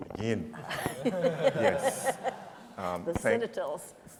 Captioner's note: audience laughing